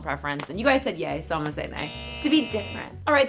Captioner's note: buzzer sound